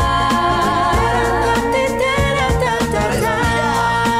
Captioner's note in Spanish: Tarareando; Voz de hombre